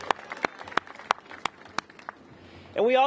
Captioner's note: applause